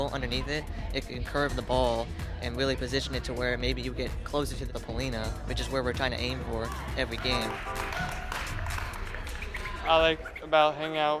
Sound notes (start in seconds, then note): 8.7 cheers